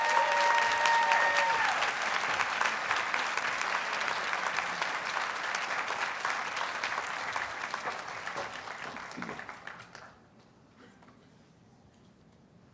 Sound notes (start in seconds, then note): 0.0 audience applauds and cheers